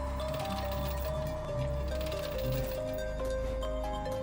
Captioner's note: humming along